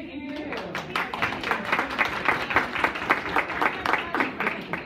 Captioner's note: applause